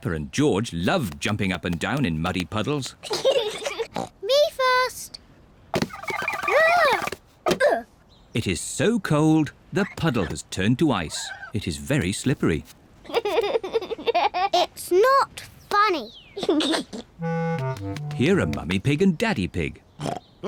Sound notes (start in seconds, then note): 3.2 snorts; 13.1 giggles; 16.3 giggles; 20.2 snorts